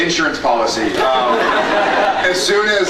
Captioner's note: scattered laughs